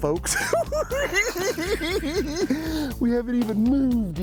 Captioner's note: cackling